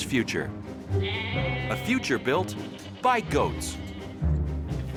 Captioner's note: goats bleating